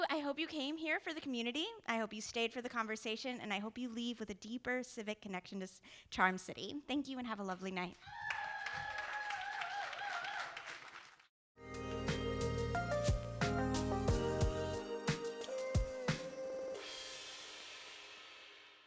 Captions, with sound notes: I hope you came here for the community, I hope you stayed for the conversation, and I hope you leave with a deeper civic connection to Charm City. Thank you and have a lovely night. (audience cheering) (audience applauding) (gentle music)